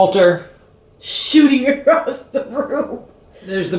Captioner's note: giggle